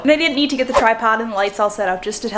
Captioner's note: air whooshes